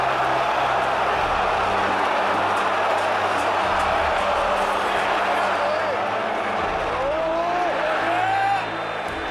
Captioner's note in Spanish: Aplausos